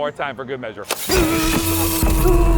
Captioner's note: electricity buzzing; grunting